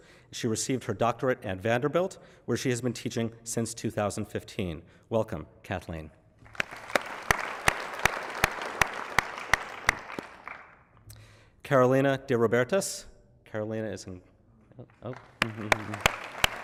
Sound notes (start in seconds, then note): 6.4 applause